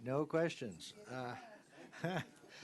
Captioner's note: laughter